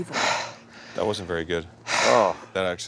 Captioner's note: heavily breathing; heavy breathing